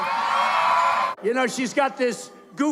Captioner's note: crowd cheering